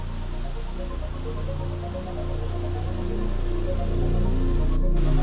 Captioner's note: rain